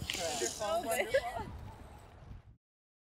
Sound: educators laughing

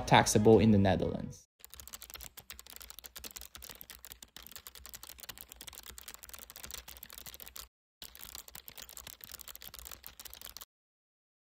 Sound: typing

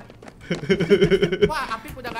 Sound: laugh

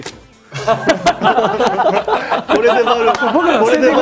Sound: laughter

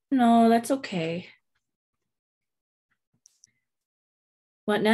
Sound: she gets up. Silence

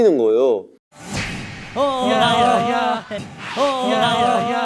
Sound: voices heard as soon as the music stopped

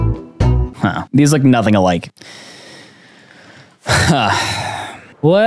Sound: sigh

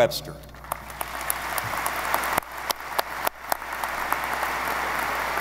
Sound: audience applause

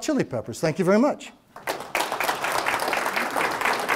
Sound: applause

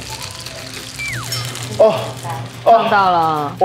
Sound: oil splattering

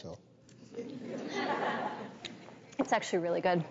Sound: laughter

